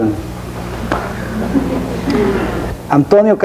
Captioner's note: audience laughing